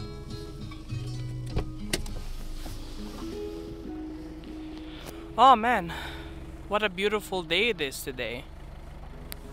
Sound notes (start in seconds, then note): 0.0 sombre guitar solo music; 0.7 car opens